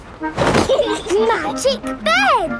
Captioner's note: laughing